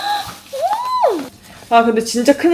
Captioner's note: excited dolphin